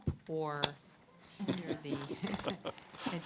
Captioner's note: chuckles